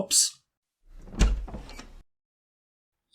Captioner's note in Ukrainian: Звук дверей